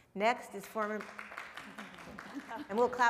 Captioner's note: audience applauding